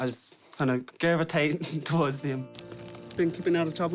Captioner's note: chuckles